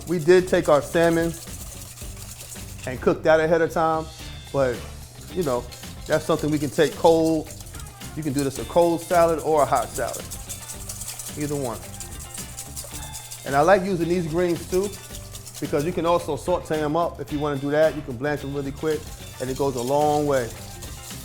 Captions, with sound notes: We did take our salmon and cook that ahead of time. But, you know, that's something we can take cold. You can do this a cold salad or a hot salad, either one. (whisk scraping) And I like using these greens too because you can also saute 'em up if you wanna do that. You can blanch 'em really quick, and it goes a long way.